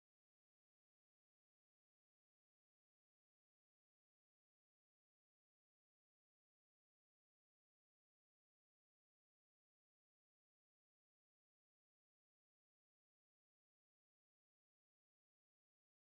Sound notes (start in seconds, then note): none